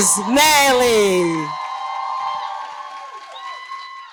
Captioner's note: cheers and applause